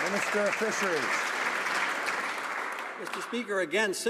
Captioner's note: some Applause